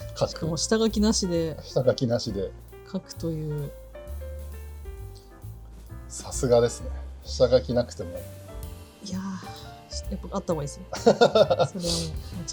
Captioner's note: laughs